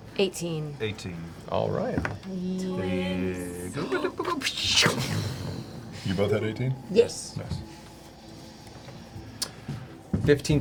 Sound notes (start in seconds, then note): 6.4 explosion sounds